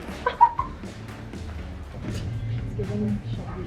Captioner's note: laughs